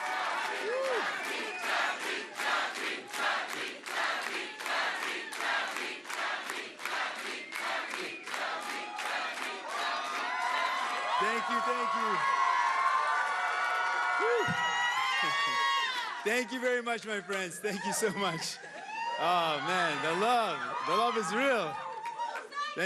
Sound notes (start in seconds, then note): 0.0 cheering and Applause; 9.0 chanting; 20.9 cheering and Applause